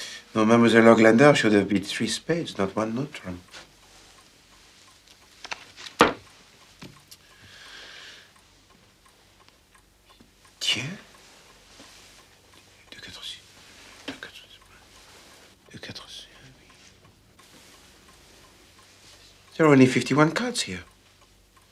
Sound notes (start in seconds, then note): 12.3 Whispering in French; 12.3 法语